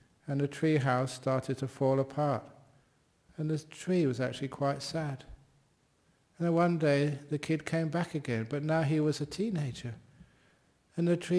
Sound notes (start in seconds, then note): none